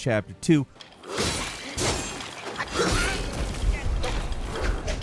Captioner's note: swords clanking